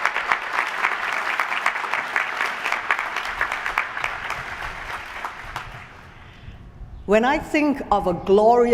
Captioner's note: applause